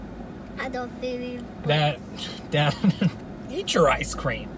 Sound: laughing

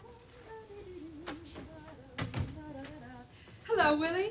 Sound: humming tune

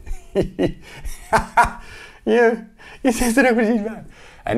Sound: laughing

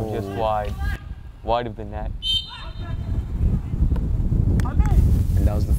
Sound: whistle blows

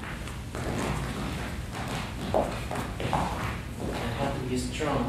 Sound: dancing feet tapping

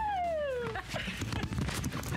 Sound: cheering

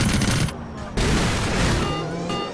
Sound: propellers spin, bullets fire; crashes; alarm going off

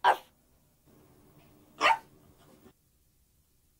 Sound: dog barks

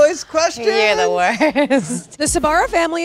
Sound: laughs

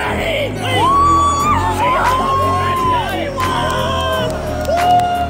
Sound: crowd cheering

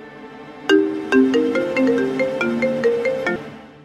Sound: phone rings

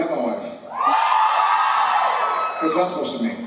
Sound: cheers

